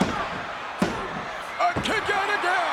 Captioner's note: hand slamming